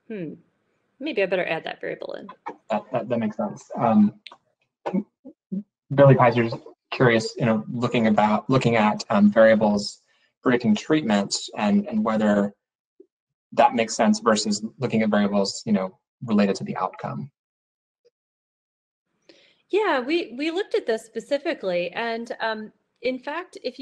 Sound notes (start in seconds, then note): 5.0 murmurs